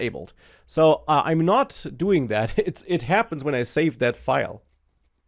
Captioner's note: laughs